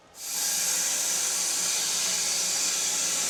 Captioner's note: saw whirring